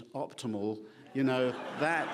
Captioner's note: laughing